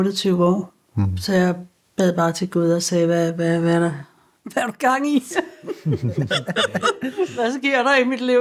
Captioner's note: laughs